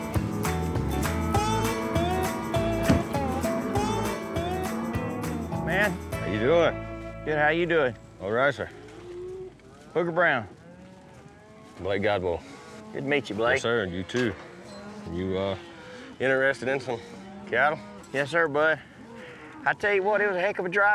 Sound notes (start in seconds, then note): 0.2 mooing; 2.8 truck door closes